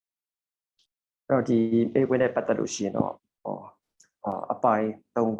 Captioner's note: speaking burmese